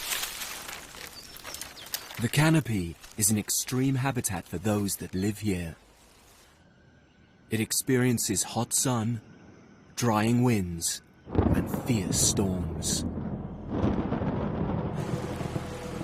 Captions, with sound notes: The canopy is an extreme habitat for those that live here. It experiences hot sun, drying winds and fierce storms. (thunder rumbling) (ominous music) (rain pattering)